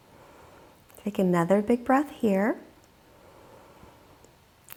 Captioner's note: deeply inhaling